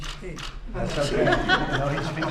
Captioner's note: laughter